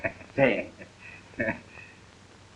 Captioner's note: laughter